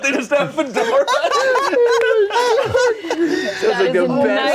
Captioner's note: everyone laughing